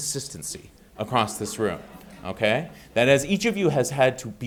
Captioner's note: audience laughing